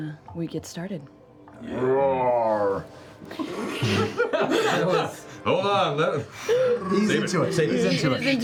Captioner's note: bear roar